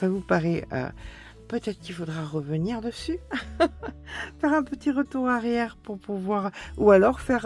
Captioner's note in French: rires